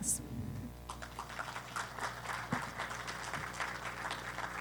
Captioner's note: applause